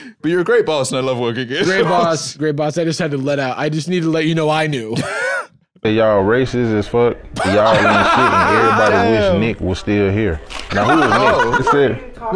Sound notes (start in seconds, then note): 7.4 both laughing; 11.2 laughs